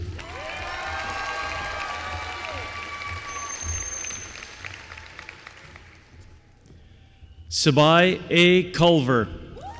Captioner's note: applause